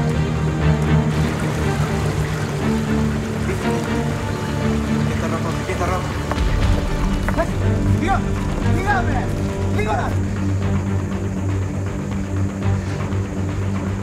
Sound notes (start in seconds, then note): 5.1 speaking in Greek; 7.3 speaking in Greek